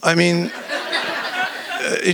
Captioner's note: laughter